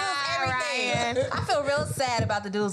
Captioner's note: laughs